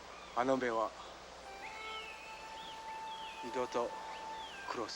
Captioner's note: speaking foreign language